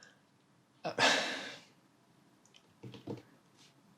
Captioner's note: sighing